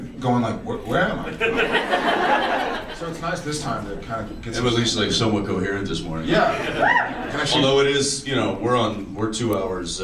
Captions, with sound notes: going like -- What? Where am I? [audience laughs] So it’s nice this time to kind of get some -- We’re at least like somewhat coherent this morning. Yeah. Actually -- Although it is you know, we’re on -- we’re two hours